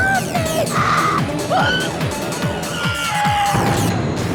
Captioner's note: screaming